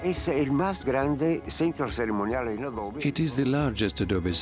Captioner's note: speaking Spanish